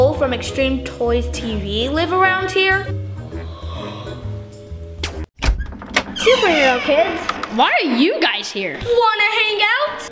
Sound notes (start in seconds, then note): 3.3 gasping